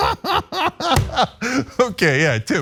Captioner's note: laugh